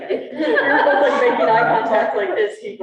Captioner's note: students laughing